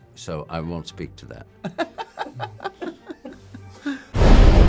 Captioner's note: laughing